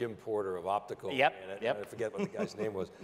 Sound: laughing

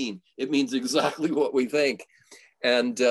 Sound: chuckles

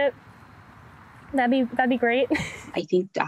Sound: chuckles

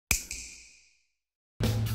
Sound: snap

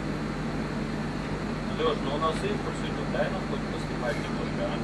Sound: man speaking native language

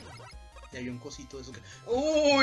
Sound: gasp

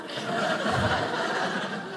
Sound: audience laughing

